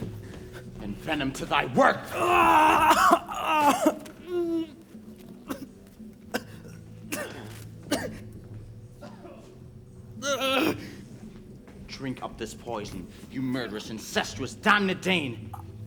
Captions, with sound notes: Then venom to thy work. (Claudius groans) Drink of this poison, you murderous, incestuous, damned Dane.